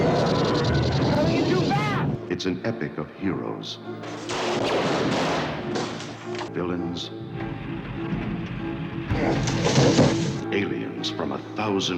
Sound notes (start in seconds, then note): 0.0 explosions; 4.4 explosions